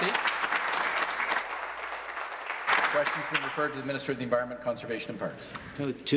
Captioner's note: applause